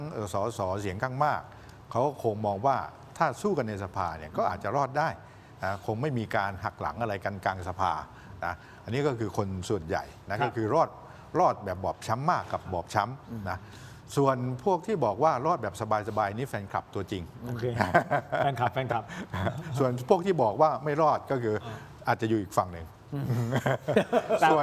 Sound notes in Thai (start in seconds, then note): 17.6 เสียงหัวเราะ; 23.2 เสียงหัวเราะ